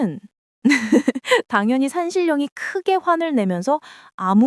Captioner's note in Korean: 웃음